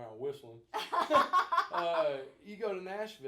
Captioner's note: both laughing